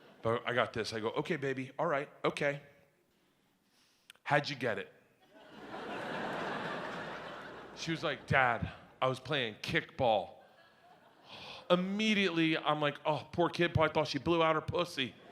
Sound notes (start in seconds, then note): 5.2 audience laughs; 11.2 sighs